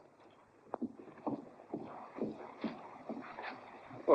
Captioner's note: anxious footsteps